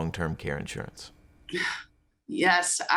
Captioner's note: sighs